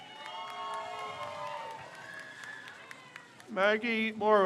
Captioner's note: crowd cheers